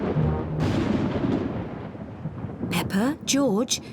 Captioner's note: thunder rumbles